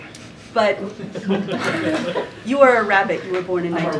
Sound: laughter

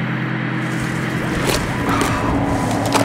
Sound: lemon squelches softly; sonorous synth music

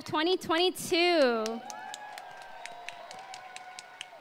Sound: applause

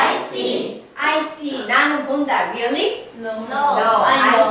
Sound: speaking foreign language

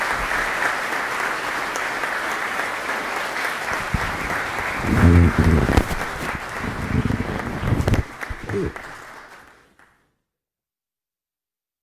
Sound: applause

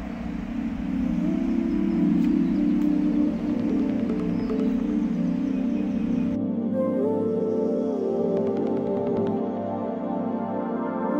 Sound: loud roaring

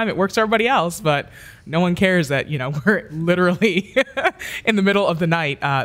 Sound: laughs

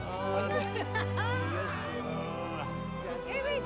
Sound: laughing

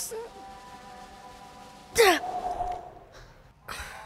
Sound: grunting; sighs

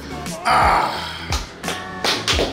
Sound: grunting loudly; applauding

